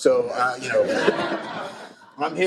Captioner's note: laughter